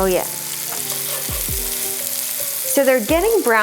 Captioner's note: butter sizzling